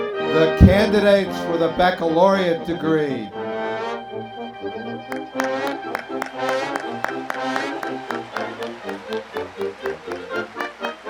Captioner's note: applause